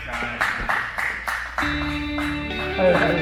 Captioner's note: applause